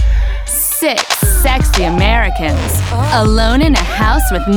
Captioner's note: voiceover